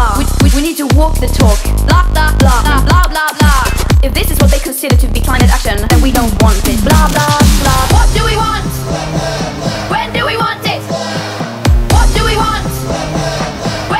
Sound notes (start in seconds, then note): 8.2 crowd chants